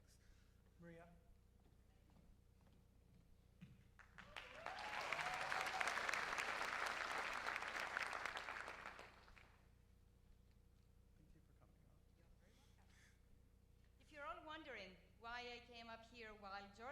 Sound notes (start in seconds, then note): 9.3 cheers and applause